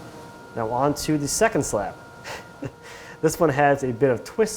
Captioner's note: chuckles